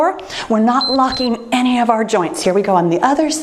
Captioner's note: timer beeps